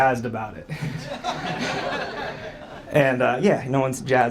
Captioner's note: audience laughs